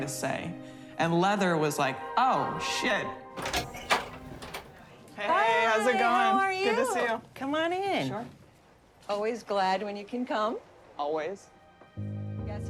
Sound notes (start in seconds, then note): 3.4 door opens